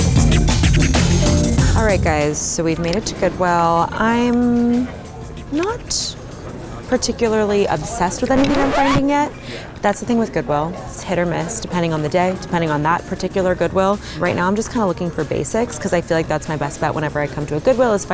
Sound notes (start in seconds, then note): 8.2 record scratch